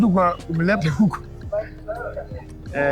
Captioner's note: laughing